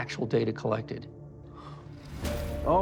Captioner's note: exhales